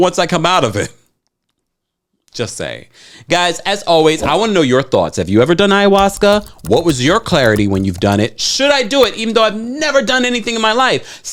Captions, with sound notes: once I come out of it, just saying. Guys, as always, I wanna know your thoughts. Have you ever done ayahuasca? (typing clicking) What was your clarity when you've done it? Should I do it, (mouse clicking) even though I've never done anything in my life?